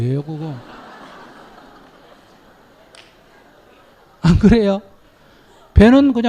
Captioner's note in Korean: 청중 웃음